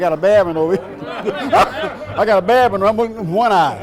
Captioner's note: laughing